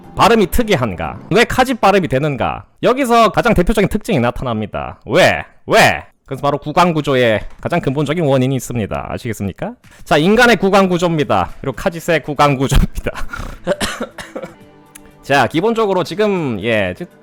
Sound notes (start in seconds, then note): 12.9 holding back laughter 3